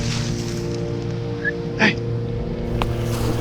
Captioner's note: whistle